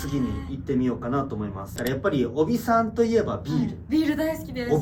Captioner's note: making sounds that change pitch